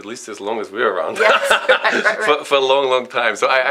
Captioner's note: laughs